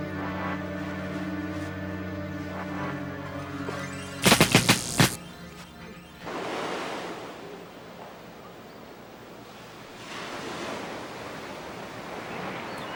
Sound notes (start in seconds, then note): 4.2 electric crackling; 8.7 birds singing; 8.7 ocean waves